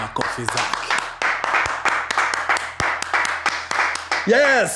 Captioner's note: clapping